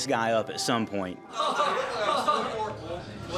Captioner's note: laughter